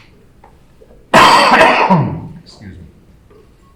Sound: loud coughing

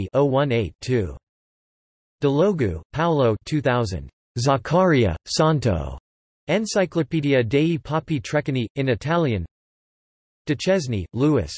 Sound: in Italian

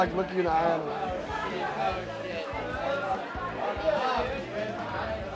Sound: people chattering

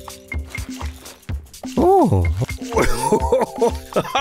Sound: laughing

